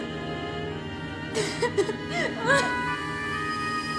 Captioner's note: sobs